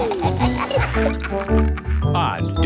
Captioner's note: giggling; laughing